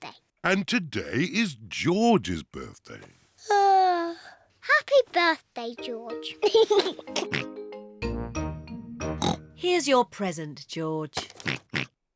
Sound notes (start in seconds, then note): 3.2 yawns; 6.4 laughs and oinks; 9.2 oinks; 11.4 oinks